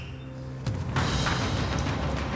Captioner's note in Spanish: Silbido